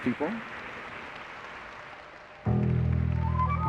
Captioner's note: applause; eerie music